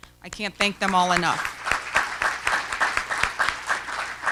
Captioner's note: applause